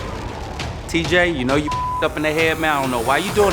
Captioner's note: beep